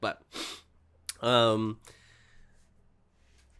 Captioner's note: none